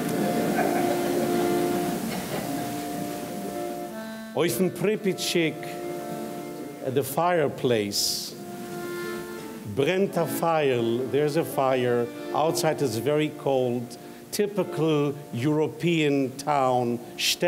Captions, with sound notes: (audience laughing) (speaks in foreign language) at the fireplace, (speaks in foreign language), there's a fire, outside it's a very cold, typical European town, shtetl.